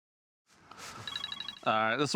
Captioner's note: phone rings